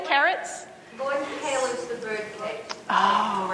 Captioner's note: woman speaking off microphone